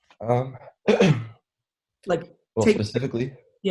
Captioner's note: clears throat